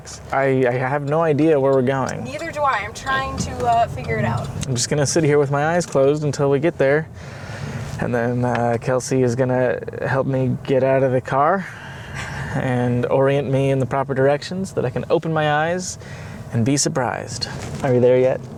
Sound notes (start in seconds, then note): 12.2 chuckles